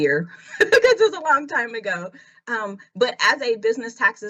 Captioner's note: laughs